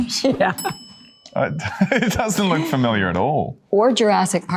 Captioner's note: laughing